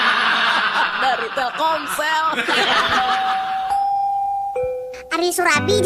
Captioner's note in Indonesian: tertawa